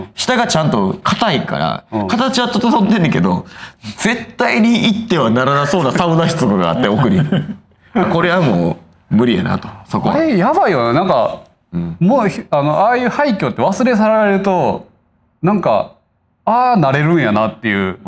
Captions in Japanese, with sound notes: 下がちゃんと硬いから形は整飛んでんねけど 絶対に行ってはならなそうなサウナつがあって奥に [笑い] これはもう無理やなとそこ あれやばいよなんか うん もうあのああああああいう廃墟って忘れ去られるとなんかああれるんやなっていう